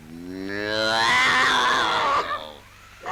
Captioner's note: Terrifying Popeye noise